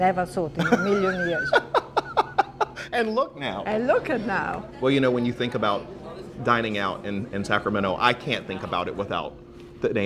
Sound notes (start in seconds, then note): 0.6 laughing